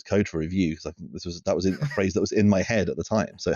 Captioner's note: laughs